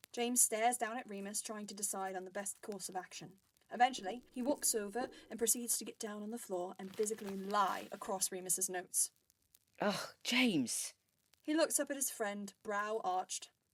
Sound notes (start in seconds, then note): 6.8 footsteps